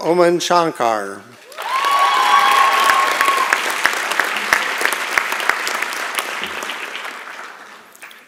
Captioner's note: applause and Cheering